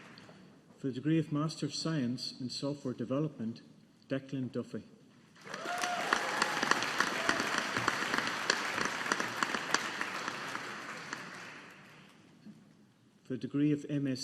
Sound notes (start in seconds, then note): 5.4 audience applauding